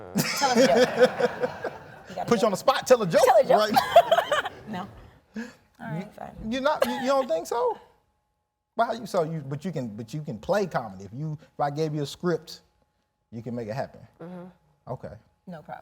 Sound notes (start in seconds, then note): 0.1 laughing